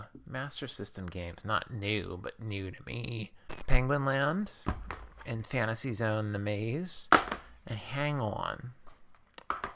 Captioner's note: static